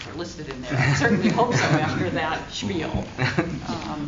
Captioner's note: laughs